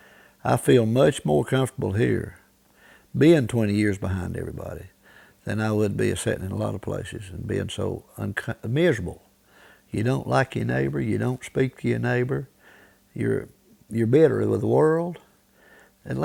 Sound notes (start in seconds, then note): none